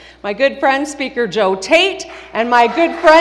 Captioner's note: applause